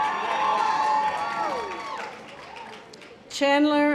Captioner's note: audience applause